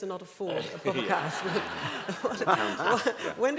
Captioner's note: laughter